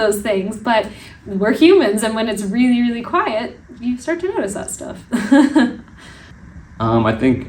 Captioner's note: laugh